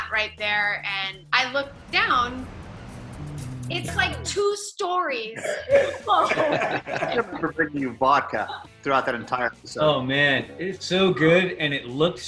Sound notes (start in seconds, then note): 5.3 laughing